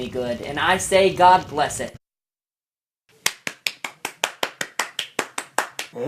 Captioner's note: Bob Cratchit clapping